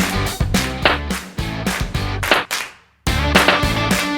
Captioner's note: popping sounds